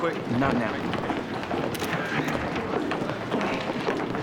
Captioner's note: camera shutters click